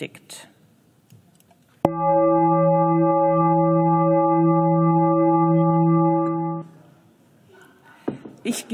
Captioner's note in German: Gong